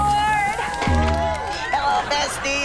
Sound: cheering

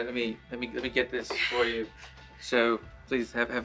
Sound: she chuckles

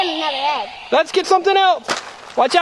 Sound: voiceover

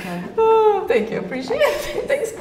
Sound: sighs

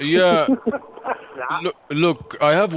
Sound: giggling in background

